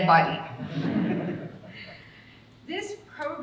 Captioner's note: audience laughing